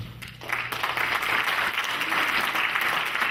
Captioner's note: clapping